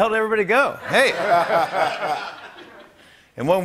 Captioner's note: laughter